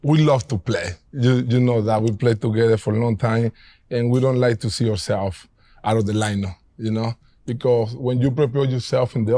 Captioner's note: none